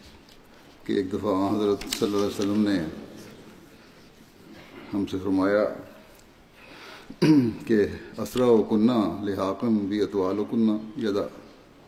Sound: Arabic

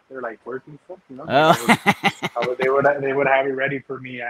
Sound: laughing

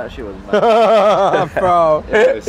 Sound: laughs

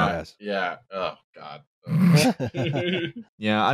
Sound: laughter

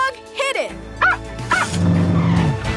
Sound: barking

